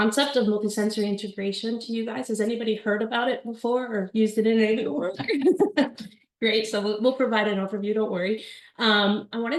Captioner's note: laughter